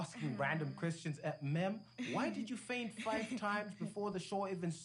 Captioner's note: laughs